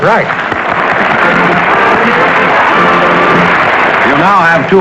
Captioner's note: applause